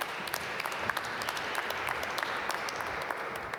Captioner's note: applause